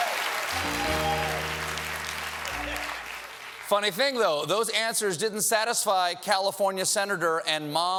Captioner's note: applause